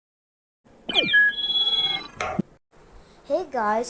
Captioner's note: join sounds